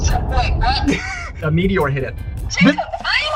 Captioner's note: laughs